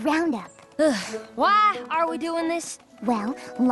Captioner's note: sighs